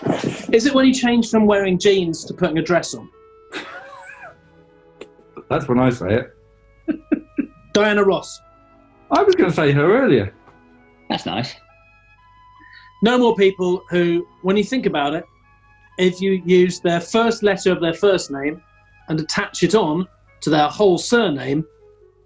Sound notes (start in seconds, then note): 3.5 chuckling; 6.8 giggling